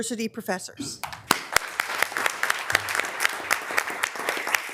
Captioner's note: members applauding